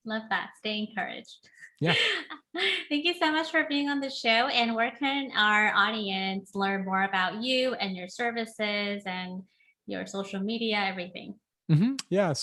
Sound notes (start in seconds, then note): 1.8 laughing